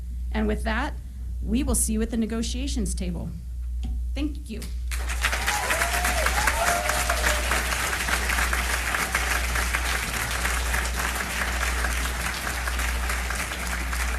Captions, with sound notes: And with that, we will see you at the negotiations table. Thank you. [applause]